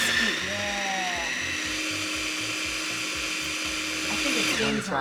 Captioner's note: blender whirling